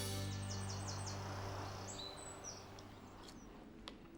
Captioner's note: birds chirping